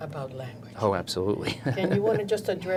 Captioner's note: laughs